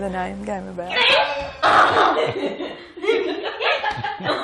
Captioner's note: laughing